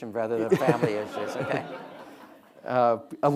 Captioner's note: audience laughing